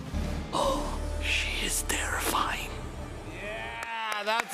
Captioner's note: gasps